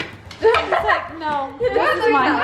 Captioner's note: laughing